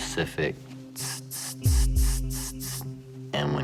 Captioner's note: hissing